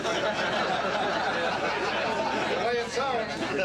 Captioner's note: laughing